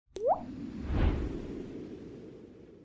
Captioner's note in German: Wind